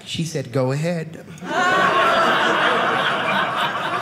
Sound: audience laughing

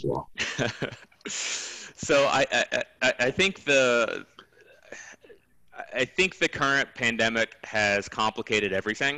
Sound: laugh

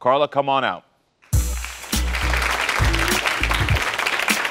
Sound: audience applauds

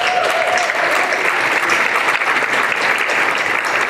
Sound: applause

